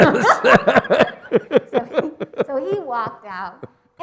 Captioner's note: laughs